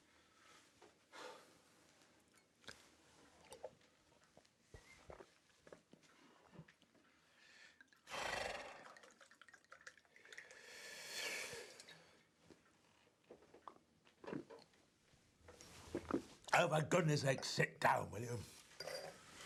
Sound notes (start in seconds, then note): 8.1 guy exhales; 8.1 wine sloshing